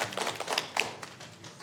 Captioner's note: applause